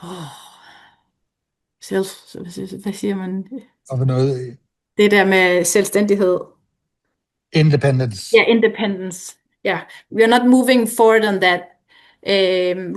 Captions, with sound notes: [foreign language] [foreign language] [foreign language] Independence. Yes, independence. We are not moving forward on that.